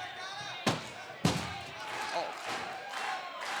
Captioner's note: trashcan bangs